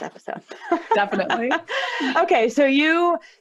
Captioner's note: laughter